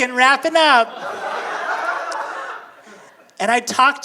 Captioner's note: audience laughing